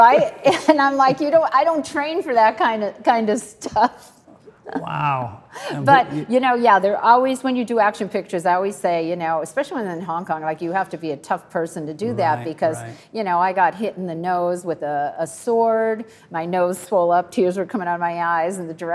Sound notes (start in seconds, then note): 5.6 Cynthia laughs